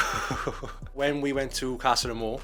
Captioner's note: laughing